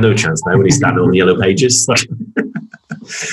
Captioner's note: laughs